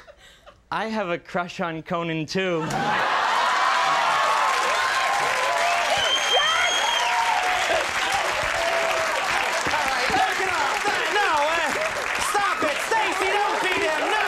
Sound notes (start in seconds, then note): 3.0 audience laughing and cheering